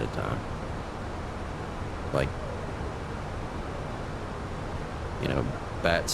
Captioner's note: radio chatter